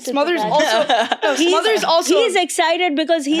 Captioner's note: child laughing